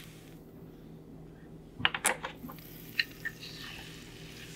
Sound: pouring Oil

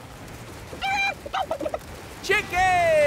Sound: clucking

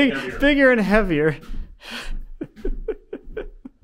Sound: laughing

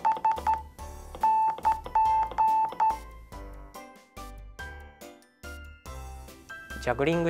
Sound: morse Code sound

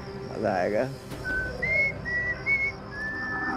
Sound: whistling

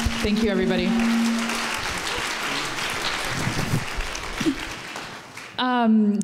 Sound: applause

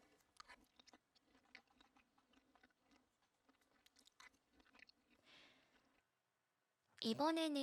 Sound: 식사하는 소리

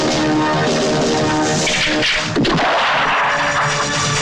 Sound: gun Cocks, GunShot

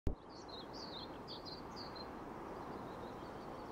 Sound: birds chirping

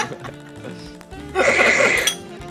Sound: slurp

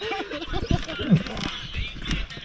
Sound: laughs

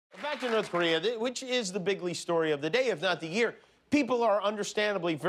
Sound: applause

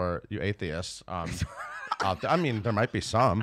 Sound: laughs

